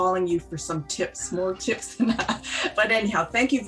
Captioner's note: chuckles